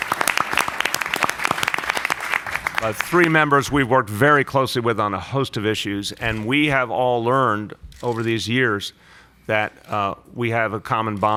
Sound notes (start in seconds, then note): 2.1 applause